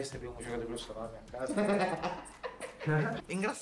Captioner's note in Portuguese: risos